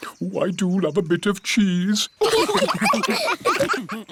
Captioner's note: laughter